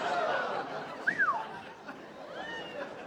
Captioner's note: whistles